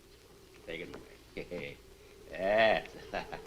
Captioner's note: chuckles